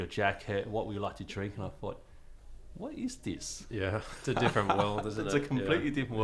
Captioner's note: laughing